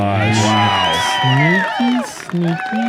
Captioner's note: cheering